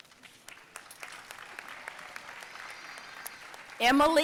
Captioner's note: audience applauding